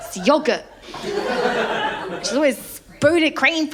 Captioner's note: laughter